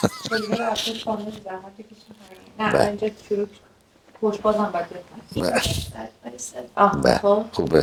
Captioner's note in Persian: خنده